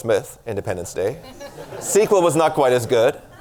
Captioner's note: laughter